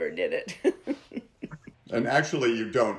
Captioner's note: chuckles